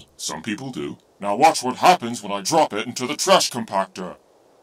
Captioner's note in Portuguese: none